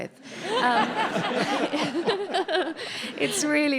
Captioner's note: audience laughs